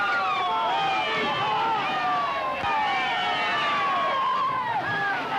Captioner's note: cheers